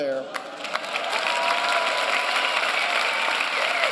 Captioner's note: applause and cheering